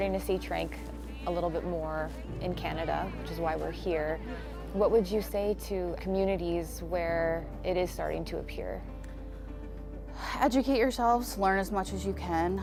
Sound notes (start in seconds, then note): 2.1 laughter